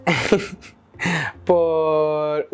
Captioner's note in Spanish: risas incómodas